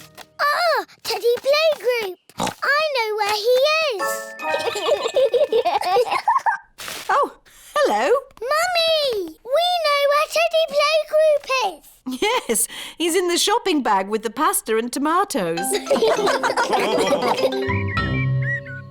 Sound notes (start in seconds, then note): 2.4 oinks; 4.5 both giggle; 15.7 all laugh